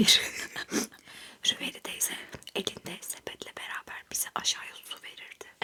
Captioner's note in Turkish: kahkaha